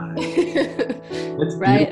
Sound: laughs loudly

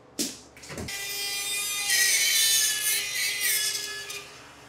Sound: saw buzzing

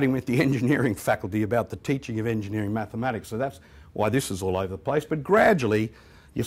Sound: chuckles

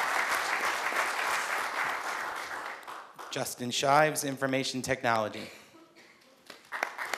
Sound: applause

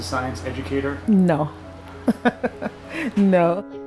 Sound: laughs

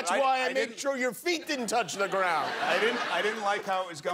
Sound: laughter

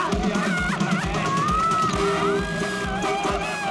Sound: crying

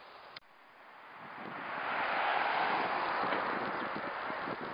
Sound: wind whooshing

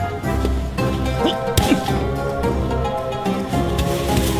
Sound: grunts loudly

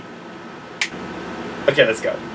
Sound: finger click

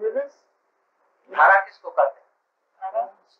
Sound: Hindi

